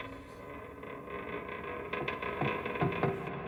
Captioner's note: ship creaking